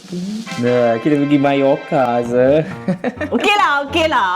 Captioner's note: laugh